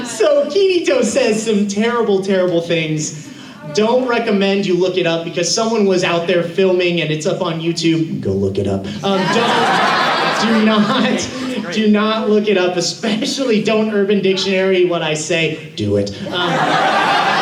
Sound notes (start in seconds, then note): 8.0 deep voice; 15.2 deep voice